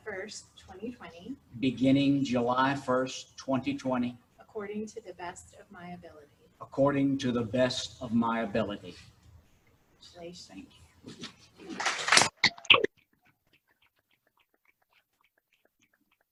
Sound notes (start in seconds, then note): 11.7 applause